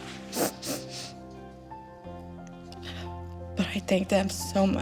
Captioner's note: sniffling